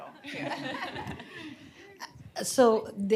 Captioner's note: laughter